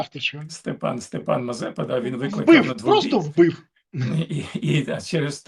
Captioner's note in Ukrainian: прочищення горла